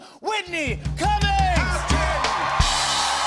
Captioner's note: cheers and applause